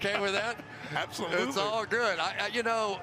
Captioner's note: laughing